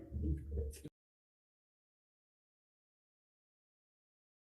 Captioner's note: silence